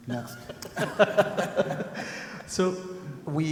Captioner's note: people laugh